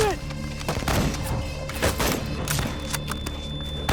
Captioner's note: gunshots